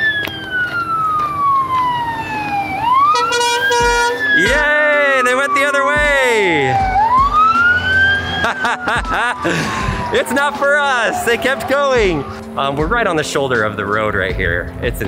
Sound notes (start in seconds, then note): 0.1 siren wailing; 3.0 honking; 8.3 laughing